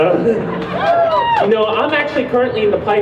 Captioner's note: crowd cheers